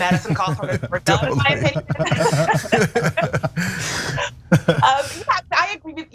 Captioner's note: laugh